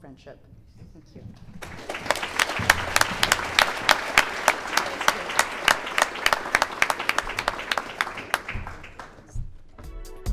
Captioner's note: clapping